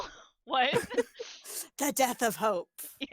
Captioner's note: laughs